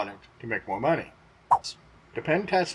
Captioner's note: swipe sound